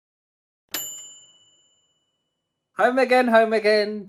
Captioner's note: bell dinging